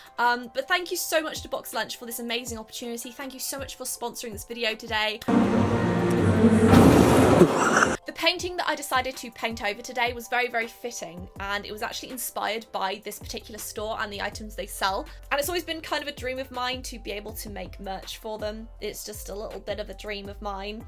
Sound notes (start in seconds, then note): 5.2 christmas music; 5.9 laughing